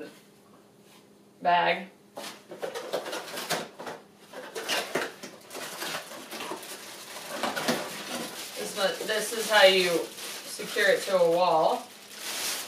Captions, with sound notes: (cardboard box opening) (plastic crinkling) This is how you secure it to a wall.